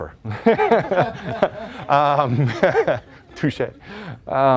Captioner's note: laughter